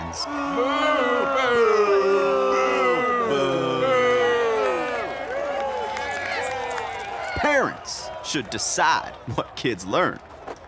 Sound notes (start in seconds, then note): 0.0 people booing; 5.0 people cheering